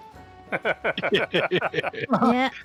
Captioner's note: laughter